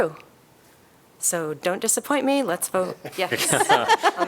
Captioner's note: laughter